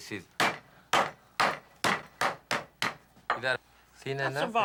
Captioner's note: pounding